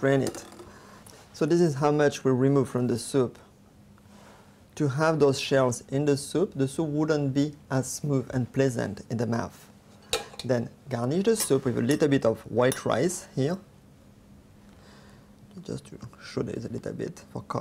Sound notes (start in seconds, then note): none